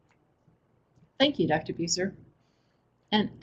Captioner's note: voiceover